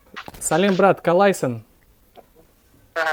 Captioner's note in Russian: На казахском языке